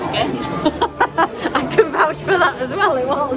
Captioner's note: laughing